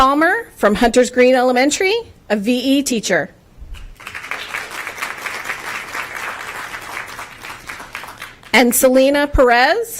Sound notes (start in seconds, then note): 3.9 applause